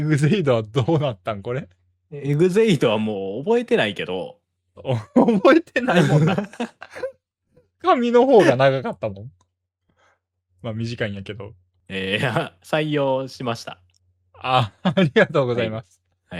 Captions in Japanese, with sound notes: エグゼイドはもう覚えてないけど 覚えてないもんだ。[笑い] 紙の方が長かったもん。ま、短いんやけど。 え、採用しました。 あ、ありがとうございます。